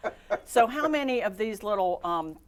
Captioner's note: laughing